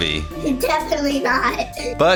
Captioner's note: laughing